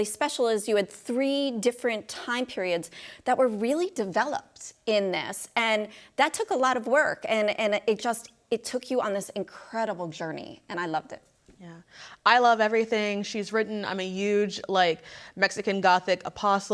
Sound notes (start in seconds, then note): none